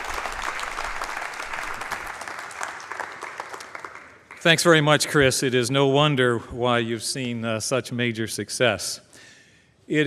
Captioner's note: applause